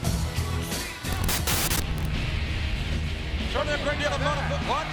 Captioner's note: rock music; static crackling